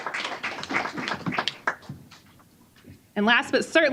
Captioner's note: applause